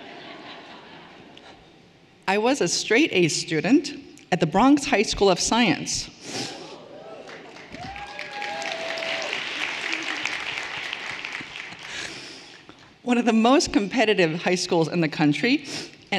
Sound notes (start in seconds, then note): 6.9 everyone applauding and cheering